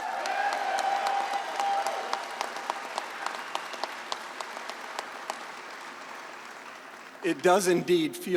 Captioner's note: applause